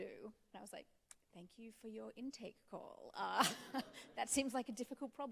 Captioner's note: chuckling